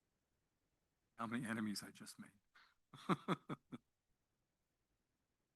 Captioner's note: laughs